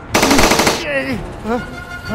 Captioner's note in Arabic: أطلقت طلقات